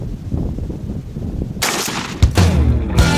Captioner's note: gun shot